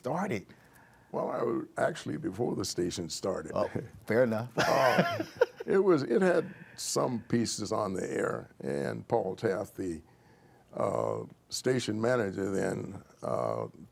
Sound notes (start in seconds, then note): 4.5 laughter